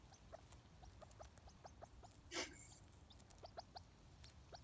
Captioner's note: grouse cooing